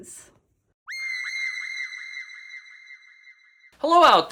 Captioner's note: shrill shrieking